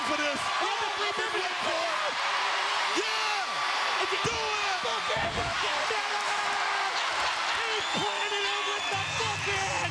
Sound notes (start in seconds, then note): 2.9 commentators exclaiming; 2.9 crowd cheering